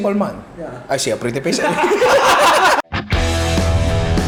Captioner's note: laughter